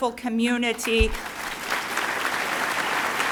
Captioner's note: applauding